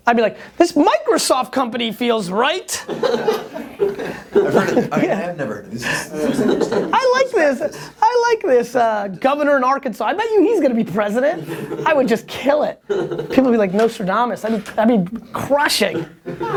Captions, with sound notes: - I'd be like this Microsoft company feels right. (laughter) - This is interesting. - I like this. I like this governor in Arkansas. I bet he's going to be president. I would just kill it. People are going to be like Nostradamus. I'd be crushing.